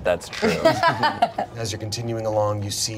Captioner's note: everyone laughs